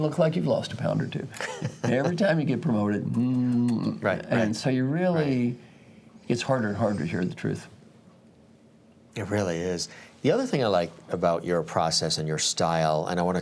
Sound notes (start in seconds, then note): 1.4 laugh; 3.2 lip-puckering_sound